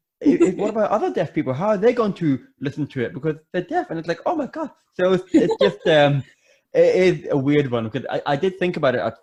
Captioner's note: laughter